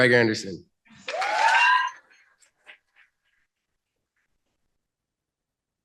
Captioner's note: cheering